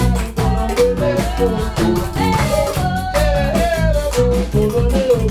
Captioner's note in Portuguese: Vocal agudo